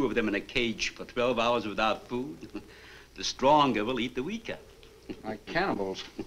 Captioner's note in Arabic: يضحك